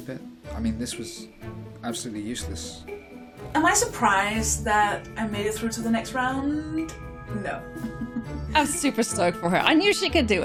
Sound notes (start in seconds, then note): 7.8 chuckles